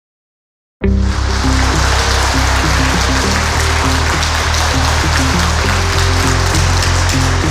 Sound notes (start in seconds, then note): 0.8 slow techno music; 0.9 audience clapping